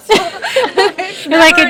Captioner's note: laughing